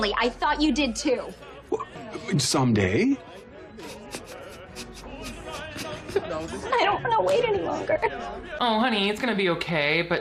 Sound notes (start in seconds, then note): 3.8 sniffling